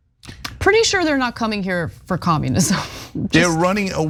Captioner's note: laugh